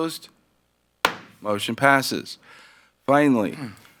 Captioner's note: gavel bangs